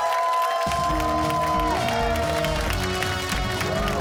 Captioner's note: cheers and applause